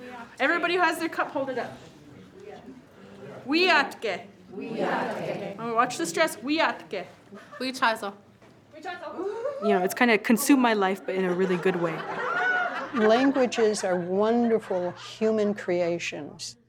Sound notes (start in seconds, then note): 3.2 speaking Lakota; 6.4 speaking Lakota